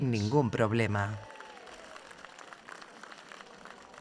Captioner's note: crowd cheers